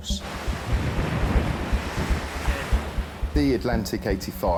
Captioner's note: waves splashing